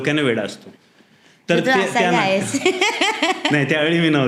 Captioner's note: giggling